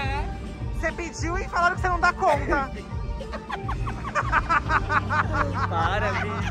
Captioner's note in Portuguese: risos